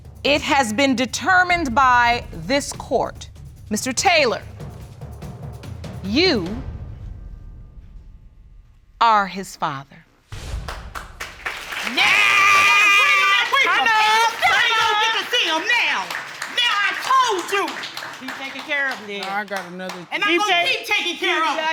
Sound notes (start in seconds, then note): 10.0 audience applauding; 12.0 cheering